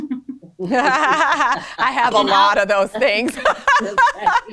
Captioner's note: laughs